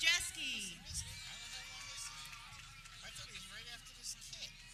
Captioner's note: people cheering